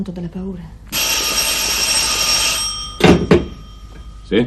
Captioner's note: the telephone rings